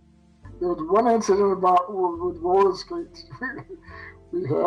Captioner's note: laughs